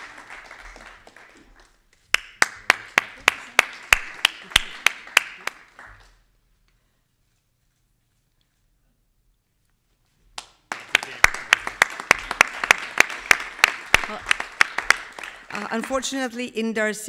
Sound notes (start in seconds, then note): 10.1 faintly speaking; 10.3 everybody clapping